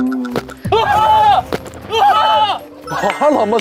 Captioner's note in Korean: Гайхалтай чанга дэлбэрэлтийн чимээ